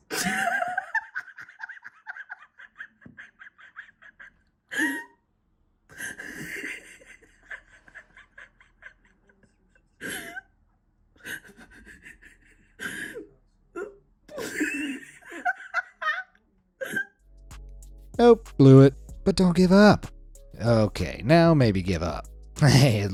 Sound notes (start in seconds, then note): 0.1 photographer laughing; 14.8 photographer laughing; 17.2 gentle music